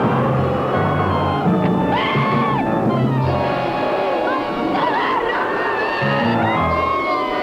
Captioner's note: roaring; screaming; roaring